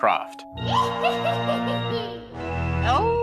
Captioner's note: evil laughter